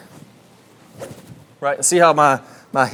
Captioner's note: club whistling